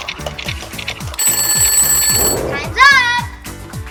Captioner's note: ringing